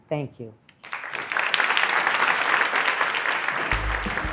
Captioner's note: audience applauds